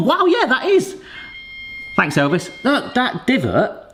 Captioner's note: appliance beeping